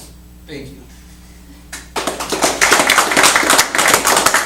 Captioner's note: applause and stunned silence